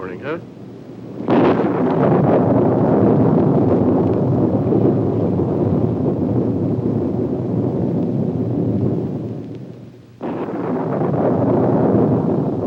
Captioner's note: storm sounds, thunder